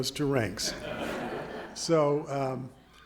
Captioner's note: audience laughing